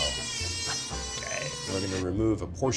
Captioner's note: whirring